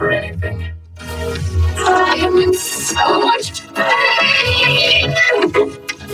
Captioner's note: voice glitching, stuttering